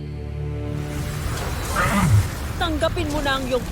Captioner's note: rousing music playing; powerful blast-crackle; grunts